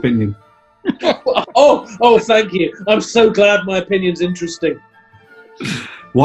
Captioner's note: laughing